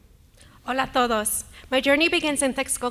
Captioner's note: speaking native language